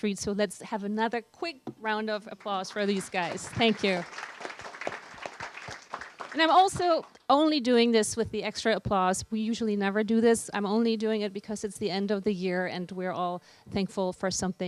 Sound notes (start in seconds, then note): 4.4 applause